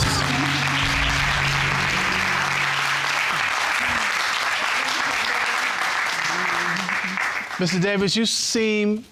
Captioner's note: audience clapping